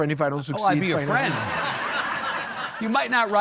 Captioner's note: audience laughing